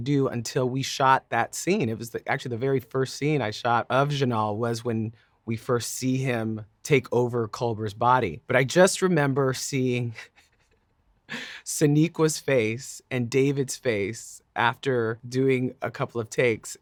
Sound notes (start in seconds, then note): 10.7 laughing